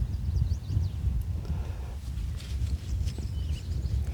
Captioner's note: birds chirping